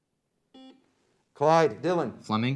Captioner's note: beep